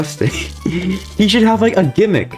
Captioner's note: inhales Oxygen